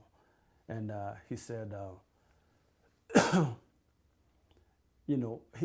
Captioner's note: pauses for 3 seconds